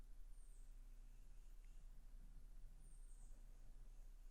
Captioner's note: bird chirping